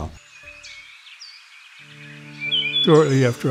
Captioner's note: birds chirping softly